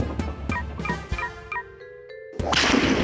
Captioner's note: beeping